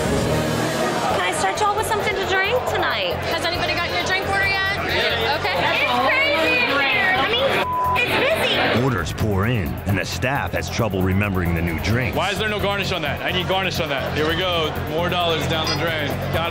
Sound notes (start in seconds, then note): 7.6 beep